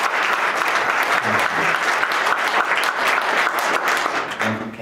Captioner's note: applause continue